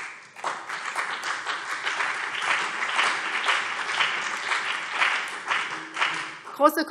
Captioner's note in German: Beifall BÜNDNIS 90/DIE GRÜNEN und CDU